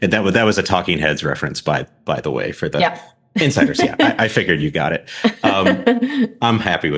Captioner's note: laughs